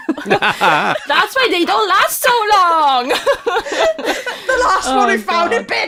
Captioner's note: laughter